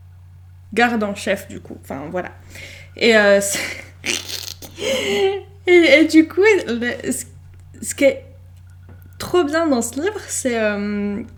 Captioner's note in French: glousse